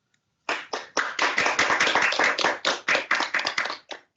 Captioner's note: applause